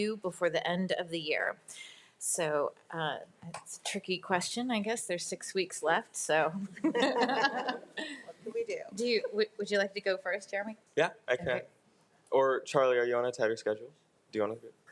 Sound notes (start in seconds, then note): 6.8 crowd laughing